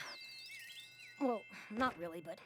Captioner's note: tweet!